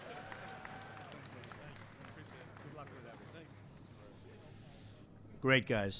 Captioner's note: applause